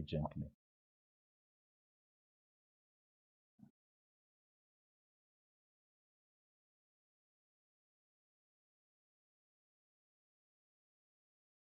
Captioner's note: silence